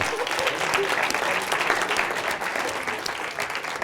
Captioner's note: applause